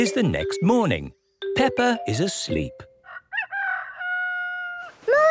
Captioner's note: cock-a-doodle-doo